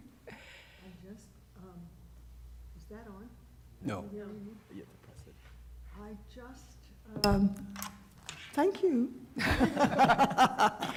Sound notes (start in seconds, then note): 9.4 laughter